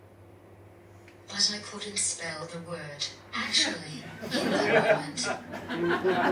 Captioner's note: audience laughs; audience laughs, someone says 'Oh no'